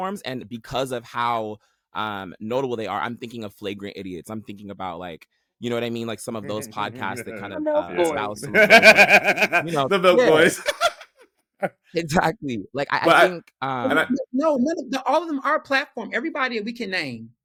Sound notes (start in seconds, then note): 8.8 laughing